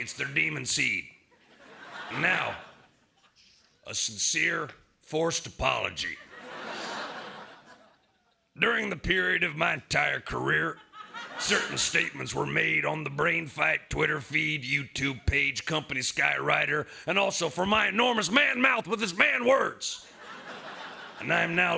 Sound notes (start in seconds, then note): 6.6 laughter